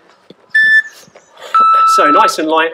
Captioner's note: beep